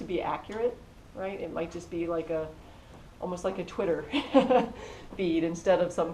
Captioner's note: laugh